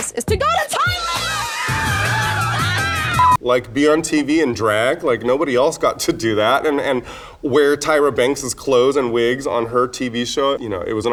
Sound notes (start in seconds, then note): 1.6 girls screaming